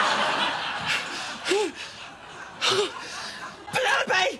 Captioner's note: breathes heavily